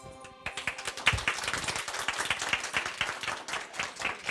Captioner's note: audience applauding